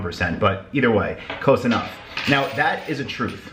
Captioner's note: quarter clattering